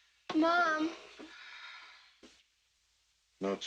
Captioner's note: Ellen sighs